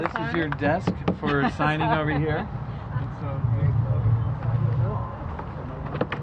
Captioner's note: applause